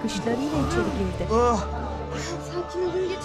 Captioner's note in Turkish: İnleme sesleri